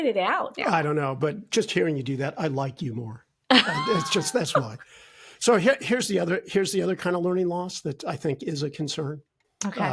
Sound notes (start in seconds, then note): 3.5 laughing